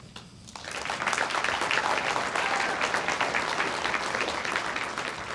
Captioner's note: audience applauds